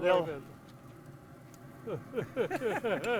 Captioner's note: group laughs